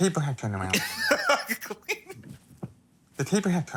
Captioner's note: laughing